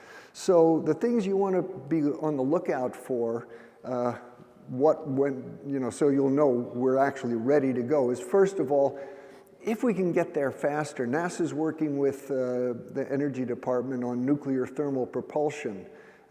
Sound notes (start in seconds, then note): none